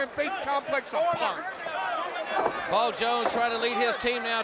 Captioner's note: crowd chatter